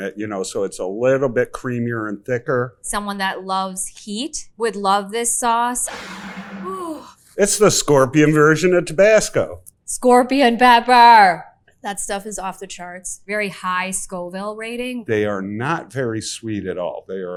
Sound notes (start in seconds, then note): 5.9 bottle scrapes; 7.1 exclaims